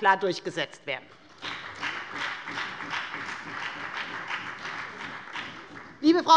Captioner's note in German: Beifall bei der FDP und bei Abgeordneten der CDU